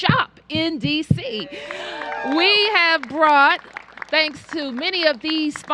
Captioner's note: applause